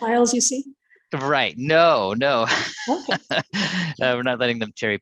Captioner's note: chuckles